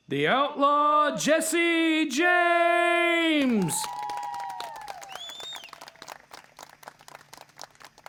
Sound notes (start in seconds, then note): 3.2 audience cheering